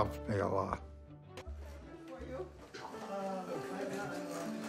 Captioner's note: people chatting